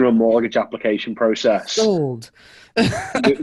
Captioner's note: laughs